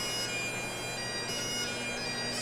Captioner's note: none